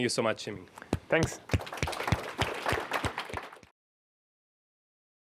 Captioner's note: applause